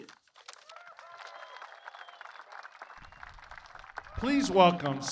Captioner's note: applause